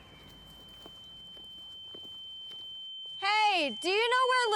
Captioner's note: high pitched tone